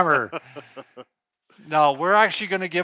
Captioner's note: laughter